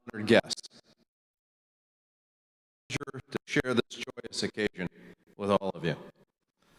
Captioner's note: audio cuts out